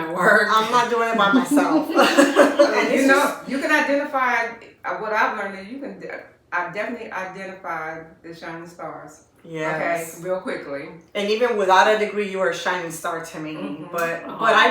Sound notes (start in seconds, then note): 1.0 laughter